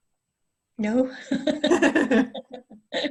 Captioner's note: laughter